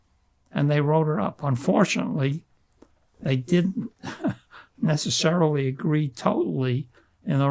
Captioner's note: laughing